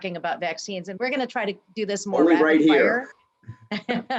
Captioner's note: laughs